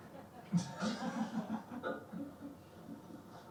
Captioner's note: both laugh